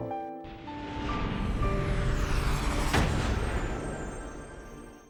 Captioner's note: dramatic sound